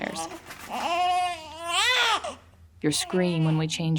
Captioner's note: baby crying